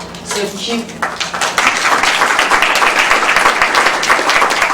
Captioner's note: applause